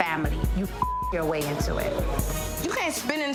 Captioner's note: beeps